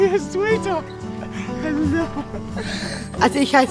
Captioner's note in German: Lachen